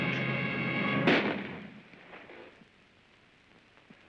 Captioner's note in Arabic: طلق ناري